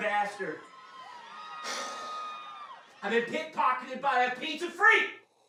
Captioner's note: Desmond sighs